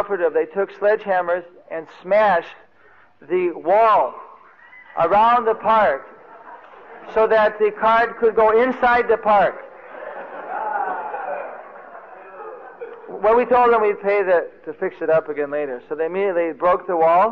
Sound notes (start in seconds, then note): 9.6 laughing